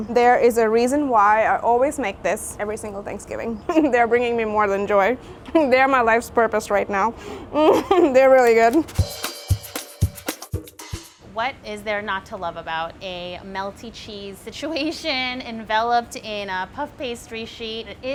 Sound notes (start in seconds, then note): 7.5 chuckles; 8.4 jazzy music